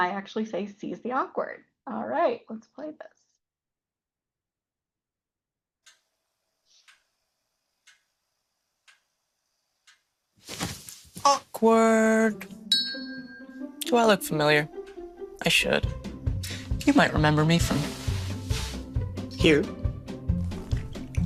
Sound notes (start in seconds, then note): 7.8 clock ticking; 12.7 bell dinging